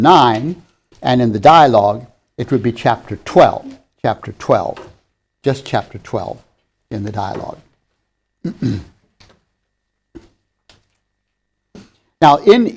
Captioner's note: clears throat